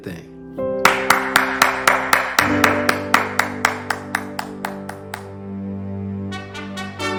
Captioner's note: applauds with a smile